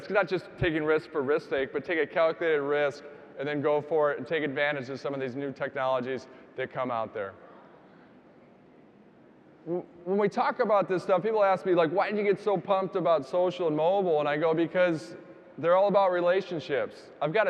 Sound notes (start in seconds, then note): none